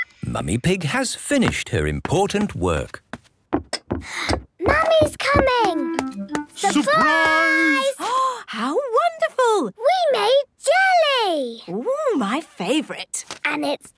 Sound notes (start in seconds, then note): 4.0 footsteps approaching; 8.6 gasps